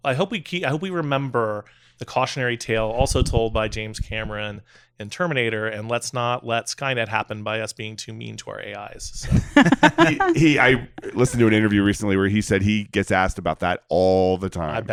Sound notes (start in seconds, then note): 9.2 guests laughing